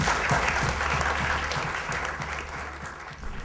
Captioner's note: applause